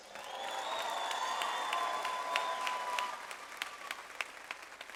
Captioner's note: audience applauds